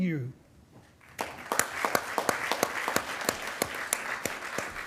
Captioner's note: attendees applauding